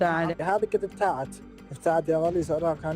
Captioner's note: speaking Alternate Language